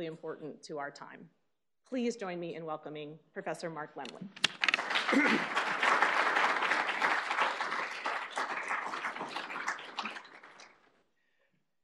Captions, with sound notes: important to our time. Please join me in welcoming Professor Mark Lemley. [APPLAUSE]